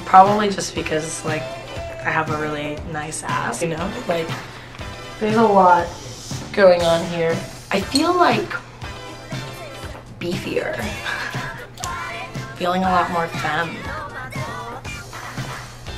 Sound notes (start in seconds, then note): 10.8 laughs